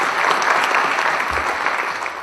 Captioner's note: applause